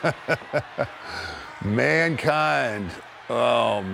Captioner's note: laugh